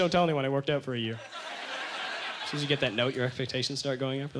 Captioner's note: audience laughter